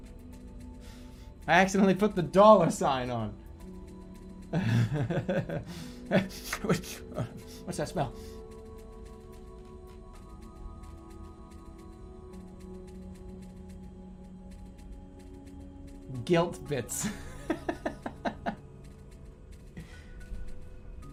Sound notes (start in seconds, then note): 4.5 laughing; 5.8 sniffing; 17.0 laughing